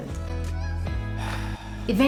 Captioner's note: exhale